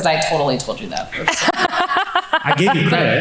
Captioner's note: laughs